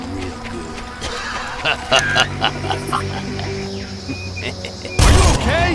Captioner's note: deep laughter